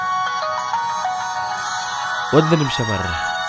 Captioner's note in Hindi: फोन की घंटी